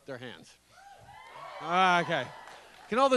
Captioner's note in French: Acclamations